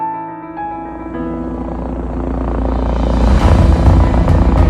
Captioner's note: whirring